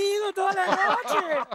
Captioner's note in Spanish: Ríe